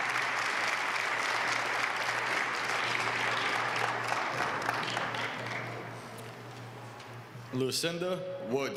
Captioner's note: applause